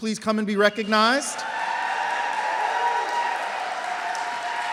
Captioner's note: applause